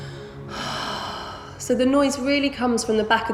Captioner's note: heavy breathing